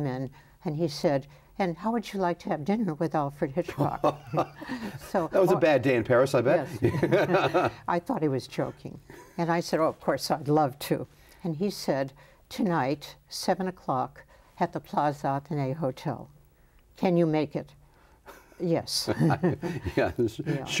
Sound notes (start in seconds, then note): 6.8 laughs; 19.1 laughs